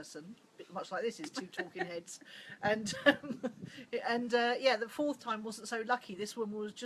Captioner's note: laughs